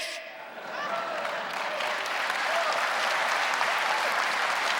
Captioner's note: laughing and clapping